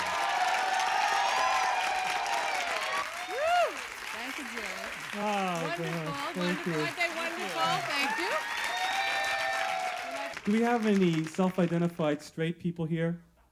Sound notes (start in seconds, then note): 0.2 enthusiastic applause and hoots; 3.3 applause cont; 8.7 applause continues then fades